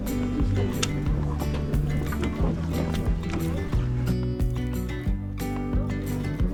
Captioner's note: laughs